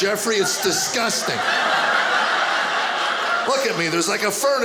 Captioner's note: audience laughing